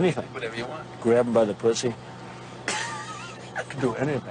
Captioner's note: person laughs